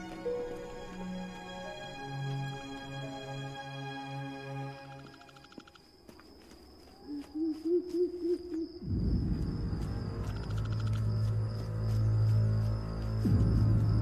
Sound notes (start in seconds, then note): 0.0 melancholic music; 7.0 owl hooting; 7.6 eerie music